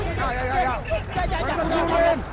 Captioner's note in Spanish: Gritan órdenes